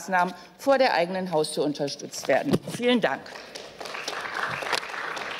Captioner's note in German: Beifall